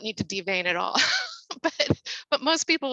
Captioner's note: chuckles